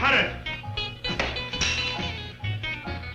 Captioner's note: glass shuttering; upbeat music